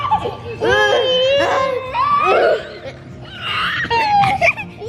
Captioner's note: laughing and screaming